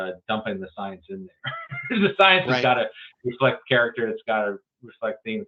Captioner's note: laughs